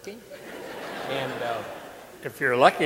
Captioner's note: audience laughing